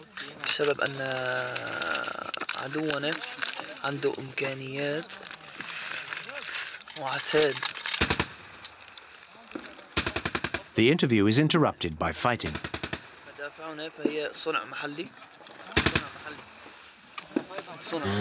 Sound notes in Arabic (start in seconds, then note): 13.2 الصوت المنطوق باللغة العربية